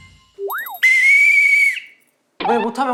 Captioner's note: blows the whistle as hard as he can